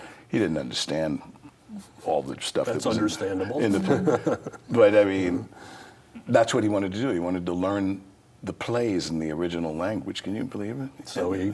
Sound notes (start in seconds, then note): 3.6 laughs